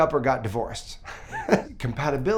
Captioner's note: chuckling